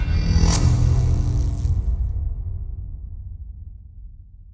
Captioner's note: electric buzzing